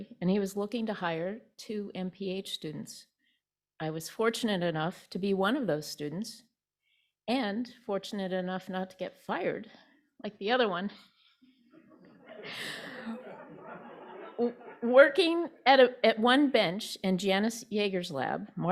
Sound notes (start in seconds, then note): 11.7 laughter